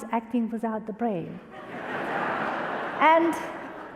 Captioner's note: audience laughter